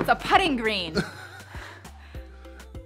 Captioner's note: chuckles; upbeat music